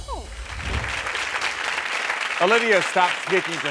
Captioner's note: audience clapping